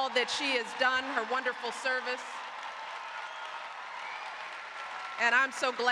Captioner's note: applause